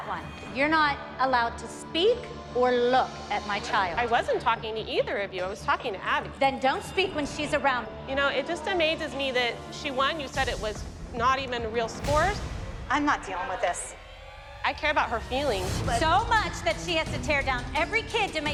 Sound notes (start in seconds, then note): none